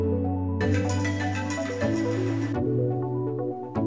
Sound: phone ringing

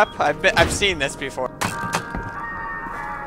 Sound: crossbow shooting

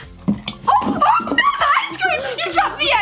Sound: screaming

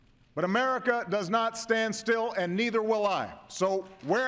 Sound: applause

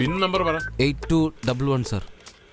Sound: wireless device beeps

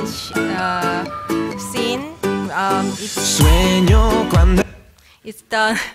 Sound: laughter

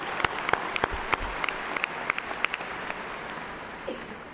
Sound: applause

